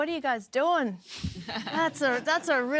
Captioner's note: chuckling